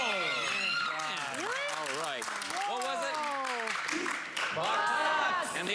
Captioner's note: audience groans